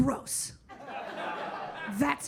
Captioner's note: audience laughing